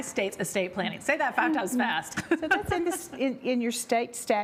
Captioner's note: laughs